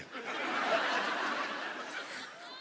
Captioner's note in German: Lachen